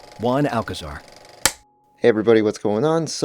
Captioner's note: film clapper sound